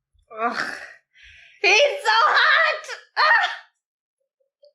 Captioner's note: screams